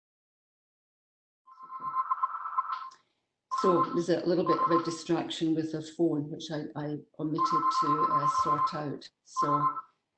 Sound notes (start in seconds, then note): 0.9 phone rings